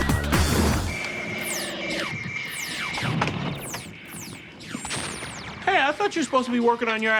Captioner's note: lasers firing